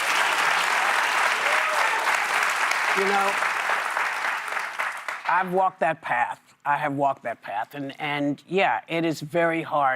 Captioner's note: applause